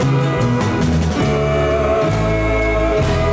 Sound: ooh

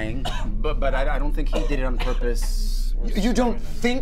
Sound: Dave coughing

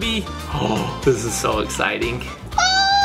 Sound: gasps

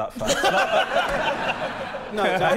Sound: laughter

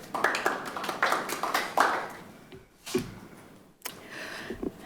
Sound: audience applauding

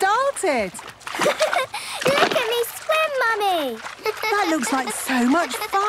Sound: giggles

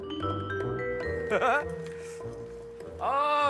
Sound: laughing

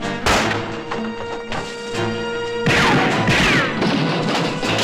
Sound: crashing; gun firing

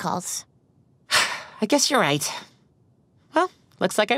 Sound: sigh

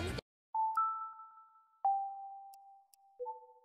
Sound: Wii chimes

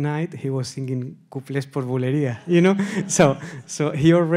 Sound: laughs

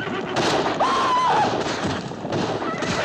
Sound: screams

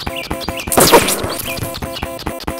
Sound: explosion

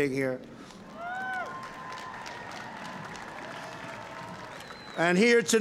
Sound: cheering and applause

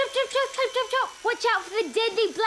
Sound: makes helicopter sounds

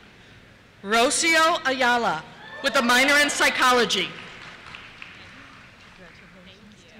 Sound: cheers

